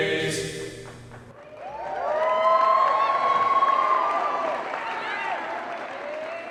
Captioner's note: audience cheers and applause